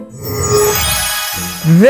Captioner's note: magic wand swooshes